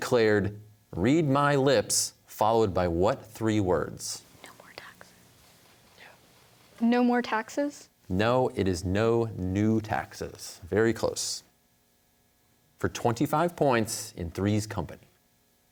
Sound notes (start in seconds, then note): 4.5 whispers